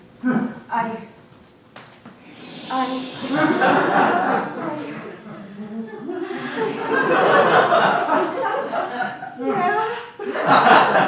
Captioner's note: sound of a balloon inflating followed by twinkle sounds